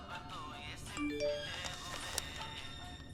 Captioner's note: phone pings